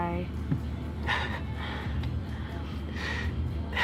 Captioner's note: laughs